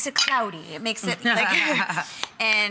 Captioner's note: laughter